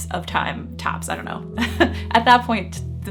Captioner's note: chuckling